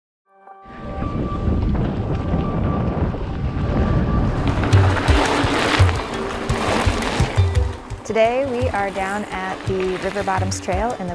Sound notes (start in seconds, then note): 0.4 gentle music; 4.7 bicycles zooming